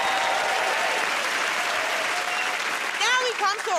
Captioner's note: cheers and applause